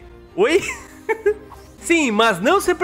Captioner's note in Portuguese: risos